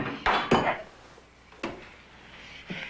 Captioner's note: banging of tool; grunt